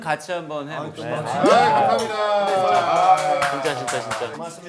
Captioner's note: cheers